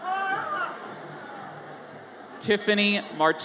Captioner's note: audience member yells